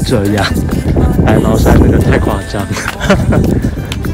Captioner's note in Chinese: 尬笑